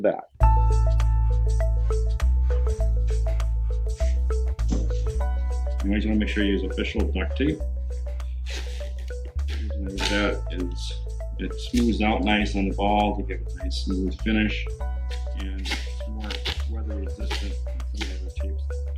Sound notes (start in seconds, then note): 0.2 chiming music; 9.3 tape squeaking